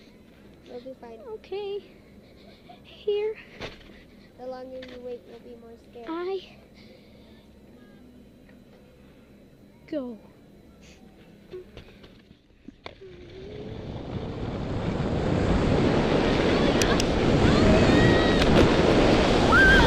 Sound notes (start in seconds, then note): 11.3 sniffs